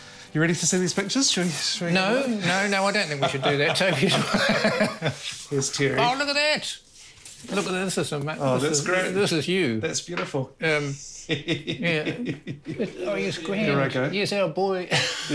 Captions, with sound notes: - You ready to see these pictures? - No, I don't know if I could do that to you. (both laugh) - Here's Terry. - Oh, look at that. - Oh, that's great. - This is you. - That's beautiful. (laughs) Here I go. - Oh he's great, using a board.